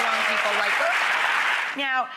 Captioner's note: audience claps